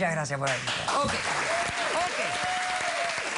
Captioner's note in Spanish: Aplausos